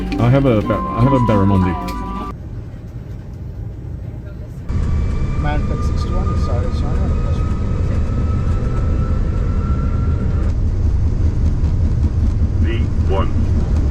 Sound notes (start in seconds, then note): 4.6 plane engine drowns out pilot